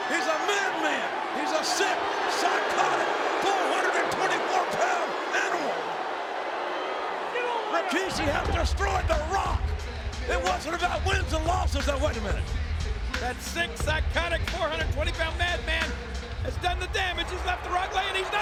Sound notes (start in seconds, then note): 6.2 spectators cheering